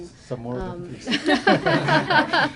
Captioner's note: laughter